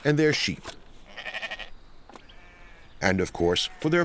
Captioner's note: sheep bleating